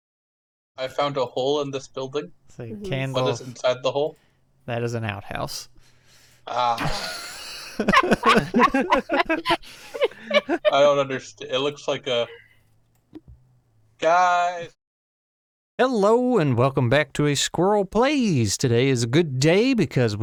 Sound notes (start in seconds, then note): 6.7 everyone else: laughter